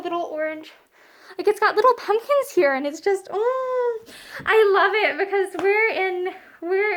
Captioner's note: happy vocal sound